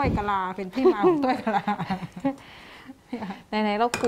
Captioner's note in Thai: เสียงหัวเราะ